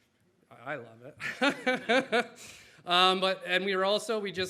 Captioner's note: laughs